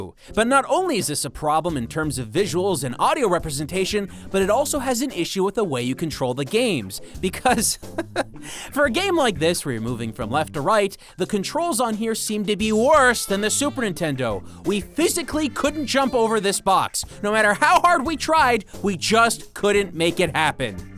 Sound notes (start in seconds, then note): 7.2 chuckles